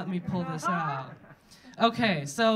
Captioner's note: audience laughing